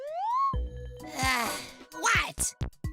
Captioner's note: sigh